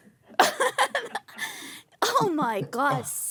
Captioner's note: laughing